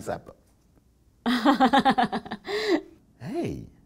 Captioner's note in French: rire